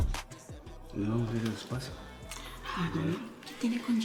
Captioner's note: Spanish